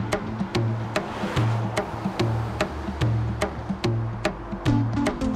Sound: air whooshing

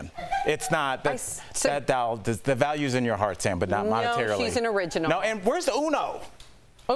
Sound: laughter

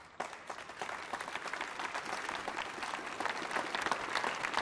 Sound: applause

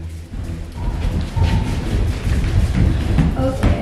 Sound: heavy footsteps

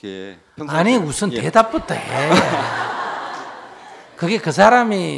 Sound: audience laughter

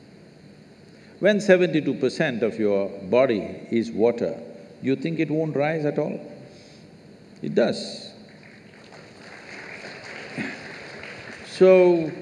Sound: applause

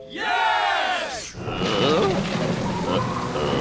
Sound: moaning

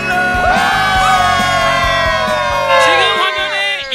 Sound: cheering

